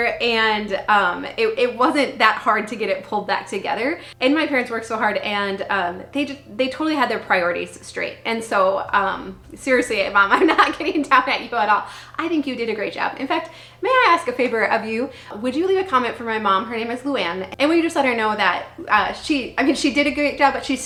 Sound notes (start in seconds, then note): 10.3 laughing